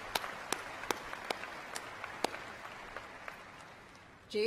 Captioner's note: cheers and applause